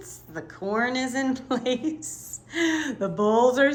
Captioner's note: laughs